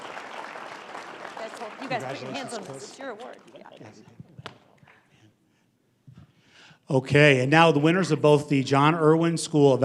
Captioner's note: applause